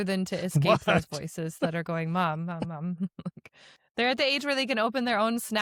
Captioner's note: chuckles; chuckles